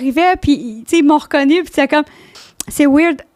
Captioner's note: in french